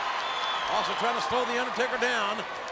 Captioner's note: crowd applauds